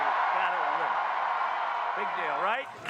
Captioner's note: cheering and applause